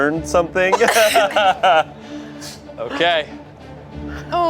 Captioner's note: laughs